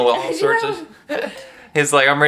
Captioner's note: chuckles